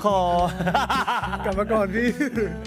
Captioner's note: laughs